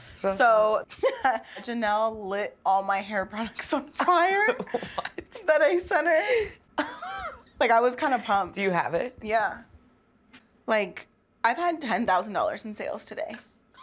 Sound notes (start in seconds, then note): 4.5 laughing; 7.0 laughing